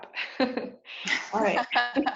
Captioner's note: laugh